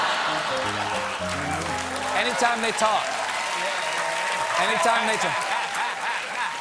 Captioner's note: laughter